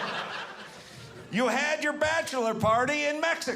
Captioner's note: audience laughing